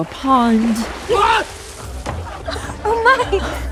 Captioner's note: soundbite of tv show, "bridgerton"; laughter